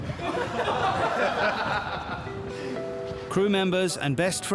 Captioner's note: all laughing